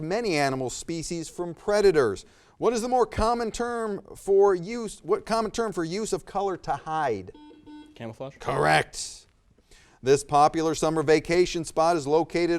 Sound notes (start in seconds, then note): 7.3 buzzer